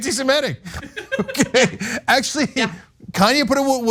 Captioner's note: laugh